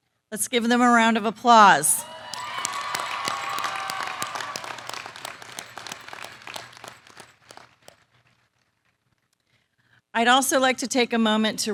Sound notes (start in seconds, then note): 1.9 applause